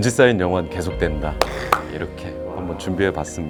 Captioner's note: exclamation